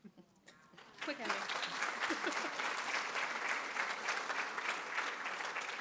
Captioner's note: applause